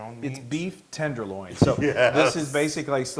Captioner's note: laugh